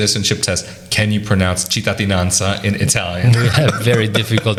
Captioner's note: laughs